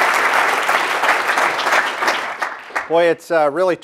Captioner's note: audience applauding